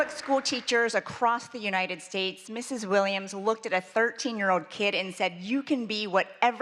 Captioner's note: applause